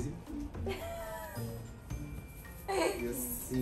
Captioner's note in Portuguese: risos